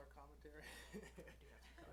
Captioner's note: laughs